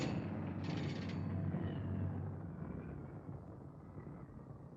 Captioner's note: engines shutting down